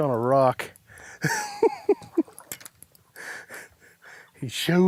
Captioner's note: giggling